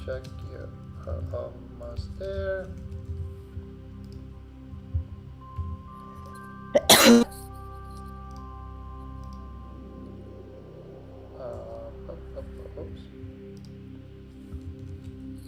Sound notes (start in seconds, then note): 0.3 calm music continues; 6.7 client coughing